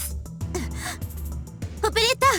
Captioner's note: gasp